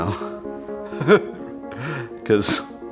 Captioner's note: chuckling